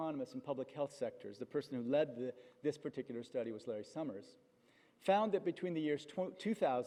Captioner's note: none